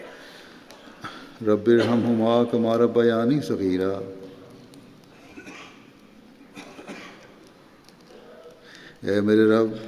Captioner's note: Arabic